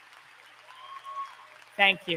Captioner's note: applause